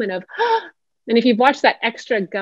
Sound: gasping sound

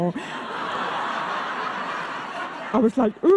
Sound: audience laughing

